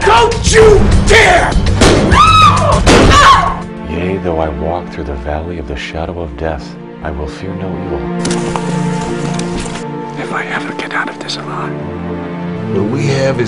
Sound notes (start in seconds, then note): 2.0 screams; 2.8 gun fires